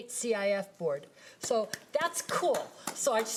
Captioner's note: board members applauding